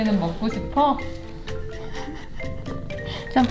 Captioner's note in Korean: 웃음